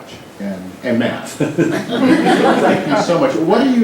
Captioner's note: laughter